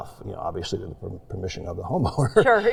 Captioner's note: chuckles